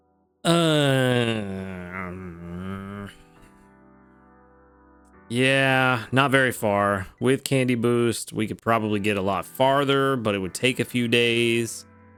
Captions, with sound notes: (groans) Yeah, not very far. With candy boost, we could probably get a little bit of candy boost, we could probably get a lot farther, but it would take a few days.